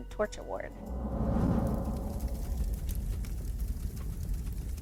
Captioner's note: torch blazing